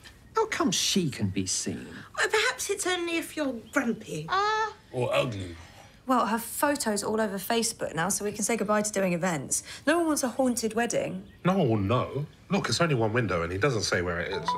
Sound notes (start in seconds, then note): none